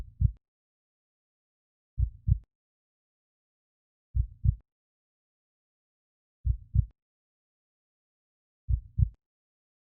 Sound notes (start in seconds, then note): 0.0 heartbeat; 2.0 heartbeat; 4.1 heartbeat; 6.4 heartbeat; 8.6 heartbeat